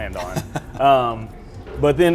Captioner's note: chuckles